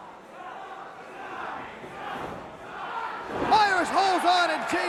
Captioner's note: crowd cheering